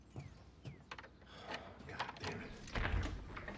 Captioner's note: sighs